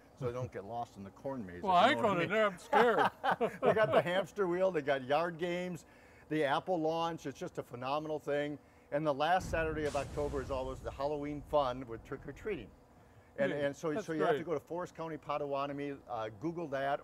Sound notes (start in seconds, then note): 2.1 men laughing; 9.4 flames exploding